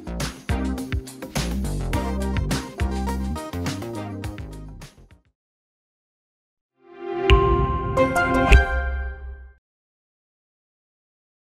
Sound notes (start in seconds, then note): 0.0 upbeat music; 3.8 upbeat music fades; 7.2 chimes ring melodically